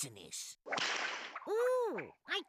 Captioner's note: whip cracking